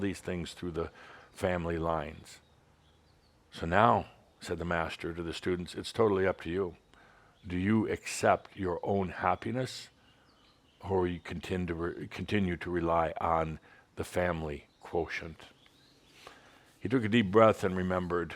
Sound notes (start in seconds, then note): none